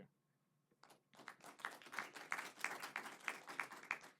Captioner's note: applause